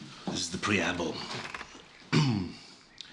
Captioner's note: clears throat